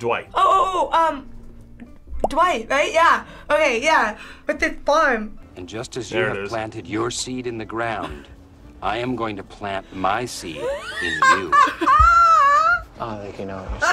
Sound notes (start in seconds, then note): 10.5 laughs